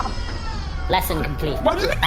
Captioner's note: metallic whirring, laughter